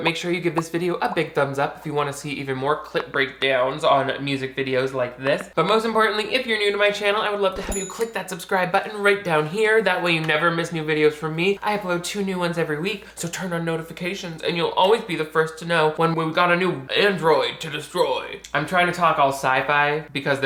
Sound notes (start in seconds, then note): 7.6 bell dings